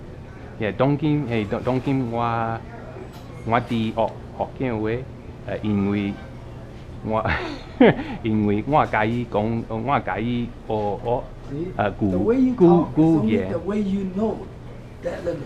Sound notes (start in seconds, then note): 2.7 hokkien